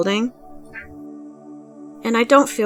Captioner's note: cat meow in background